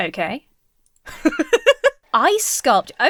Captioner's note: laughs